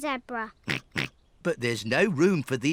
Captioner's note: snorts